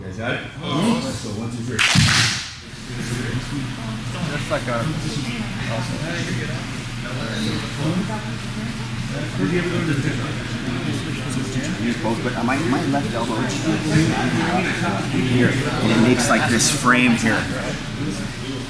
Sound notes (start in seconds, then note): 1.8 class claps